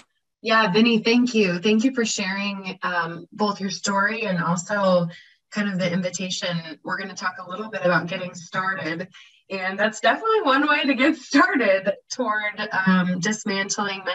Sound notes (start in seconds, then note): 11.6 laughs